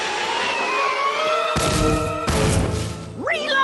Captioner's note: thud